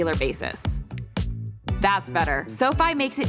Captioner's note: snaps fingers